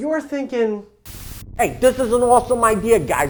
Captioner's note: static crackling